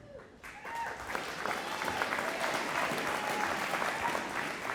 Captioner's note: audience applauding